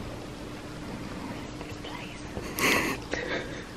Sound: whispering

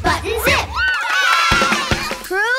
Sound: cheering

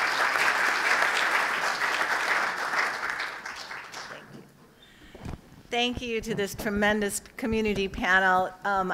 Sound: applause

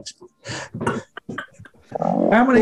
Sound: laughing

